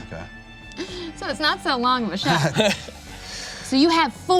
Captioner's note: laughs